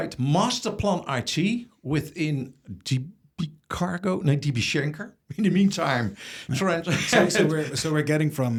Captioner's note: laughs